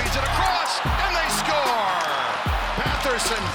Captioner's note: crowd cheering